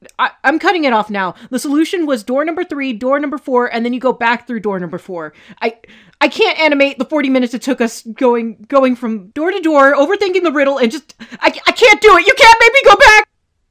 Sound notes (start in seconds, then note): 5.5 hyperventilating